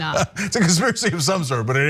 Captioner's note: laugh